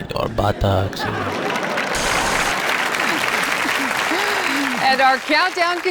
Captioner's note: audience laughing and applauding